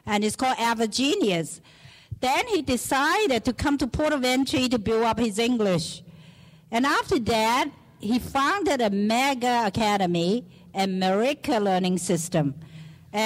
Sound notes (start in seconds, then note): none